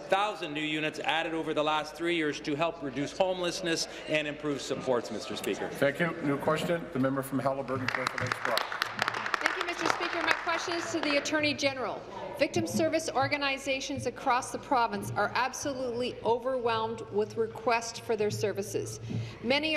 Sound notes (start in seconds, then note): 12.3 applause